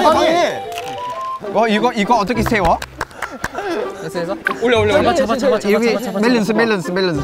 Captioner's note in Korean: 응원의 박수